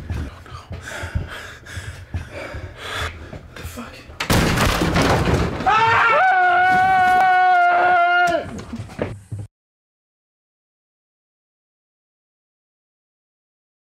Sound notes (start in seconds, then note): 0.0 both breathing heavily; 4.2 door slams open; 5.6 both screaming